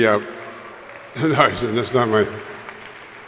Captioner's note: crowd applauding